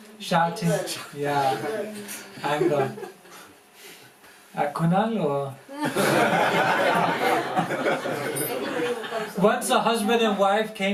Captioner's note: laughter